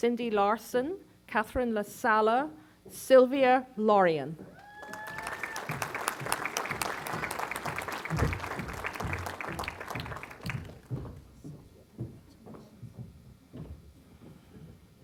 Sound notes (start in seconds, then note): 4.6 applause